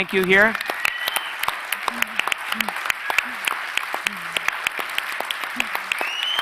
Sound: audience and speakers clapping

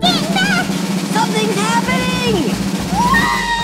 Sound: drum roll; buzz

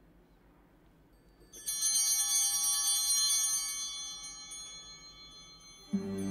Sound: bell ringing

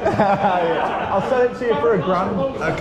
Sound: all laugh

